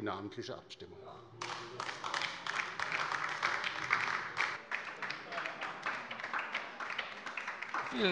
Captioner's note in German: Beifall bei der LINKEN